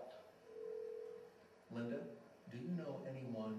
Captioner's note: phone ringing